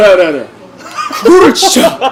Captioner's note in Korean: 웃음